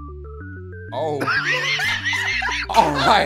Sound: laughter

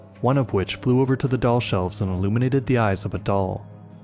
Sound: none

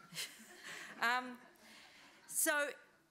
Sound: and audience laughs

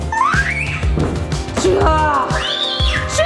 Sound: screams

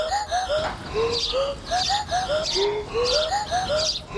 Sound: birds chirping

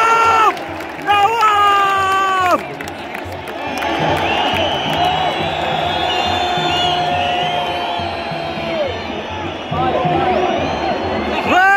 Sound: clap

